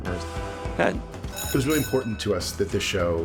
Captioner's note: bell rings